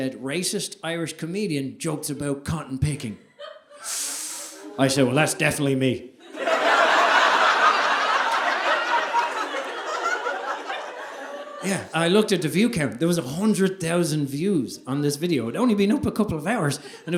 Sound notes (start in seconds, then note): 6.2 audience laughing